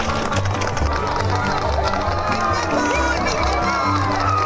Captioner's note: crowd cheering